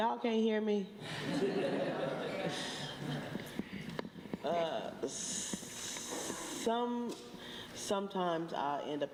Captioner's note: laughter